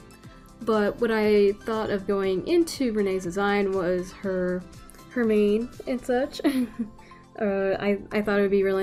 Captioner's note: laughs